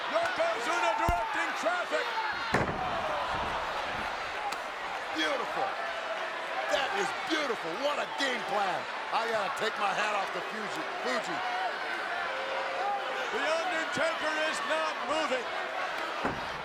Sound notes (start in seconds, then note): 2.4 body crashing; 2.7 crowd gasps; 16.4 crowd clamors